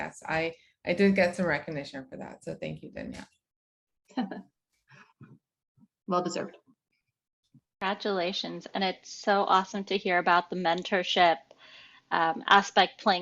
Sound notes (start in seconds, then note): 3.8 chuckles